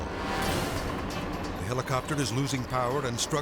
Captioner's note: intense music; engine whirring